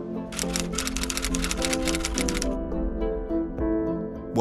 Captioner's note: typewriter clacking